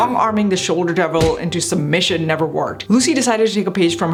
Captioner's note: fist thuds